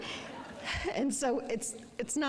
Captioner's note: audience laughing